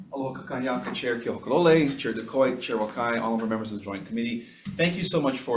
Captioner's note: speaking in Hawaiian